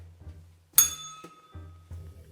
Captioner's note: bell rings